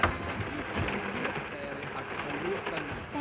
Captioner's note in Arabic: تلعب الموسيقى الشعبية; صوت خشخشة القطار